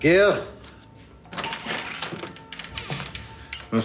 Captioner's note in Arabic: يفتح الباب